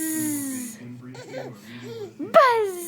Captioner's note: laughing